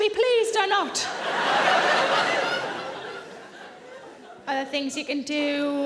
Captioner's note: audience laughing